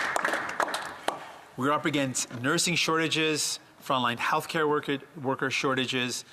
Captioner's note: some Applause